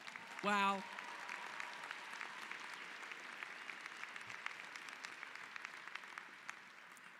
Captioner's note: applause